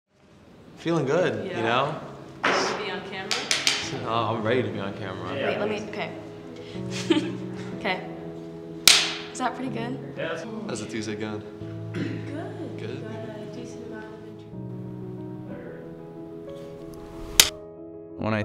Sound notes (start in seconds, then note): 6.8 chuckles; 8.8 clapperboard clacks; 16.0 gentle sentimental music